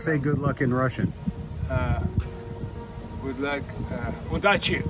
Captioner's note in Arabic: يتحدث بلغة أجنبية